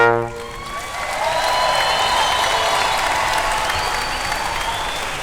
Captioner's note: audience cheering and applauding